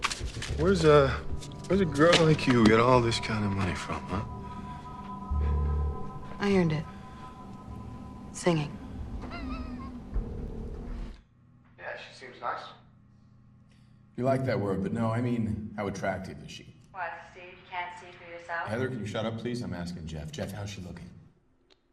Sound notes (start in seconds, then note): 9.3 chuckles